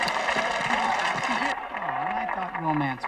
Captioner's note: audience applauding